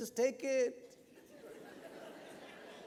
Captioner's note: laughter